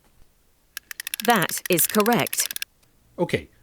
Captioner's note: Snake speaking via Music Box